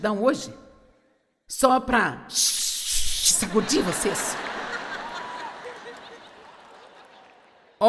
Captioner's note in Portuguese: audiência ri